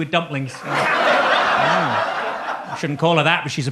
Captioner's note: audience laughs